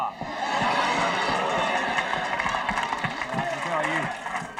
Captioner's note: audience applauding